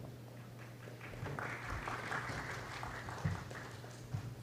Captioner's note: applause